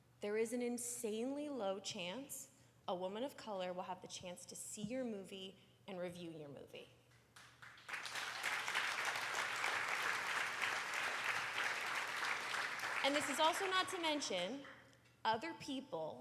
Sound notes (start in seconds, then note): 7.3 applause